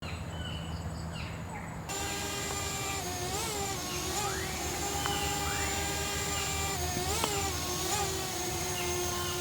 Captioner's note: rainforest and drone sounds